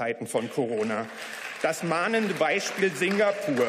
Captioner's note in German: Beifall